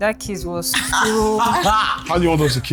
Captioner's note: laughs